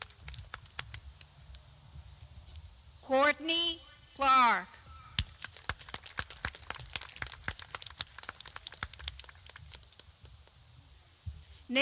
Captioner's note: clapping